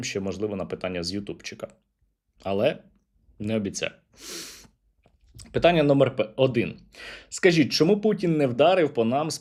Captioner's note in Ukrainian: сопіння